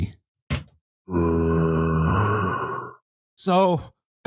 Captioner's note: monstrous growl